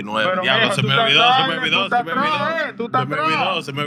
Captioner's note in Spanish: Hablando español